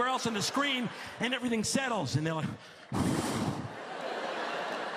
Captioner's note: exhales; laughter